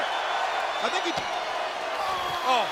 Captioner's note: audience cheering